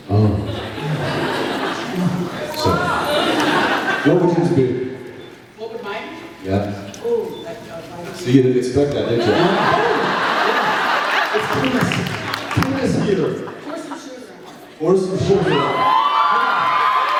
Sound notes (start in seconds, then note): 0.1 laughs; 9.0 laughs; 11.0 applauds; 15.4 cheers, applauds